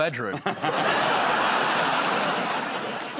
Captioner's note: laughter